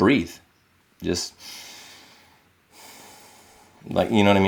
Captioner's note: inhales